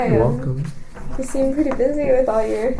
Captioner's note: laughs